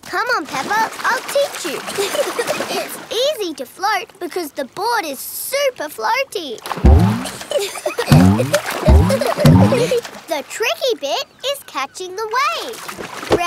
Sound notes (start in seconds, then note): 1.9 giggling; 7.2 giggling